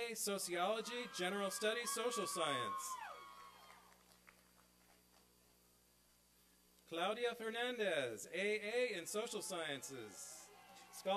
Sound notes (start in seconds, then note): 2.5 applause and cheering; 11.0 applause